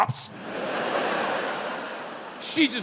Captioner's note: crowd laughing